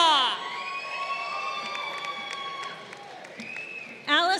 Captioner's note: crowd cheering